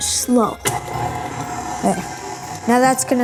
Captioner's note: mixer motor revs